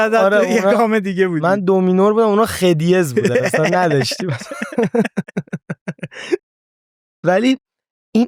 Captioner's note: laughs